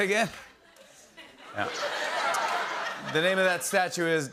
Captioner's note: laughter